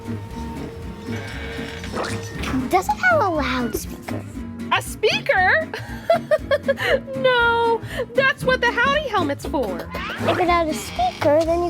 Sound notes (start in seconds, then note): 0.2 upbeat jazz music; 5.8 chuckles